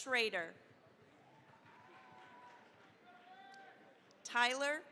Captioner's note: cheering, applause